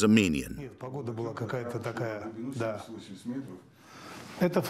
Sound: Russian spoken audio

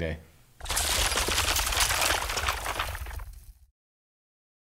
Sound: glass shattering

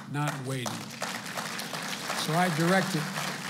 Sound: applause

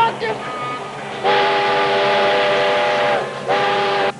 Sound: train whistle blowing

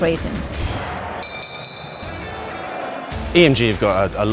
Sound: crowd roaring; bell dinging

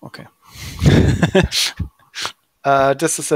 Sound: both giggling

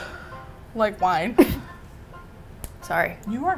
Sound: coughs

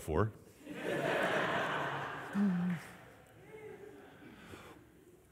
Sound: audience laughing

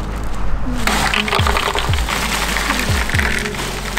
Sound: ice pouring

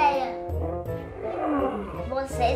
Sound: roar

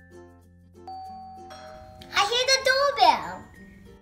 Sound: doorbell rings

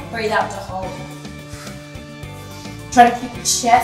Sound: exhales

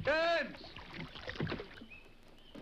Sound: birds chirping

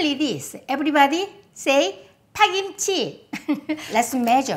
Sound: laughs

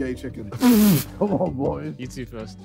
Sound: laughing

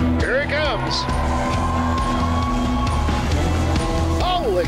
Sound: crowd cheering; tractor engine rumbling

